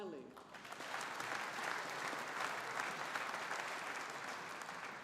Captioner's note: audience applauding